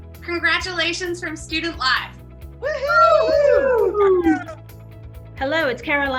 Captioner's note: group cheering